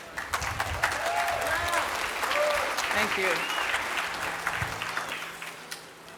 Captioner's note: applause